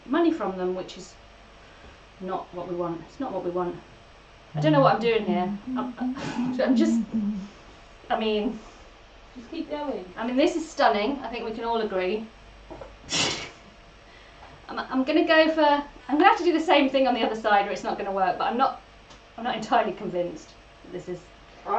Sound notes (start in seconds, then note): 9.8 laughs